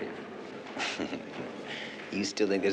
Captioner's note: chuckles